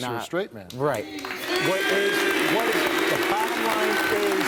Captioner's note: cheering